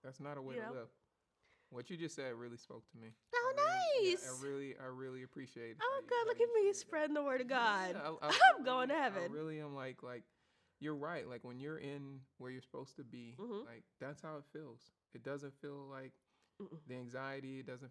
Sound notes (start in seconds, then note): 8.2 chuckles